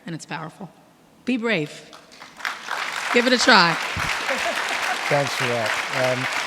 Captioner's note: audience clapping